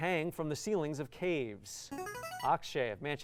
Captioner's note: buzzer